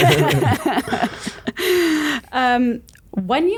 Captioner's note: laugh